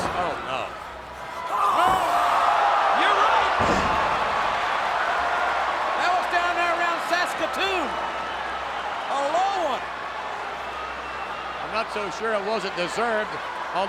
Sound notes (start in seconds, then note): 1.6 Bret groans; 1.6 audience gasps